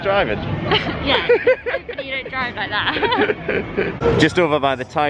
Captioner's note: laughter